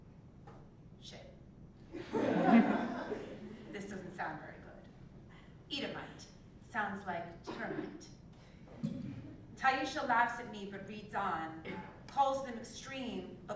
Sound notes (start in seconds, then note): 2.0 laugh